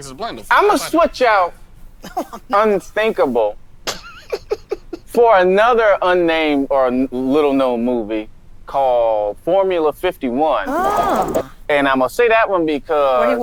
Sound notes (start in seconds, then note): 3.9 laughs